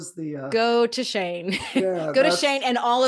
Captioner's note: chuckles